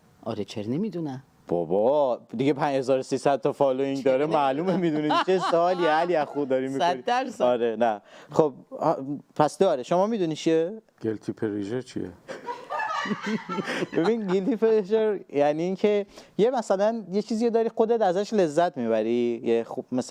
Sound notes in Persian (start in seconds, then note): 4.6 خنده; 12.3 خنده